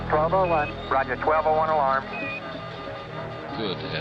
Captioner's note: alarm beeping